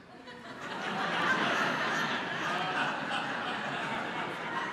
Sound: congregation laughing

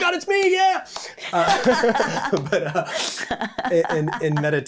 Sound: both laughing

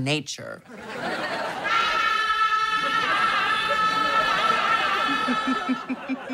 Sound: screaming; laughing

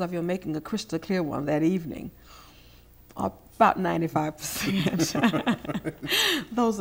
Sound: laughing

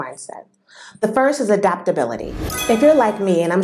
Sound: sound effect

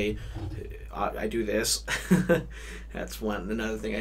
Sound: laughs

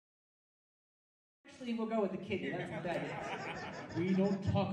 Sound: audience laughing

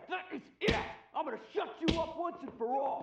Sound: smack

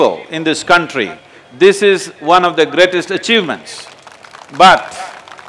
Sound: applause

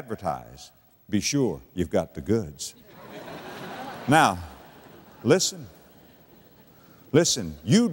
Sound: audience laughter

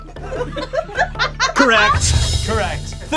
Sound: audience laughs

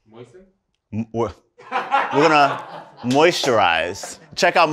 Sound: laughter

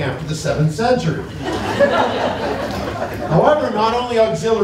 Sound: laughter

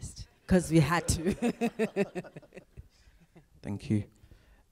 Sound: laughs

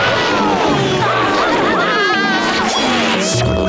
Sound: laughing

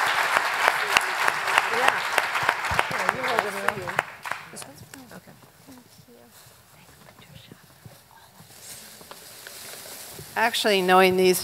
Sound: applause

